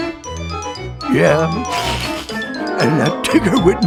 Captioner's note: sniffles